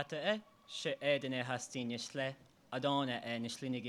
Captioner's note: in Navajo language